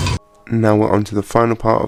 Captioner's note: Shade rattle